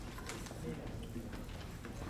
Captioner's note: none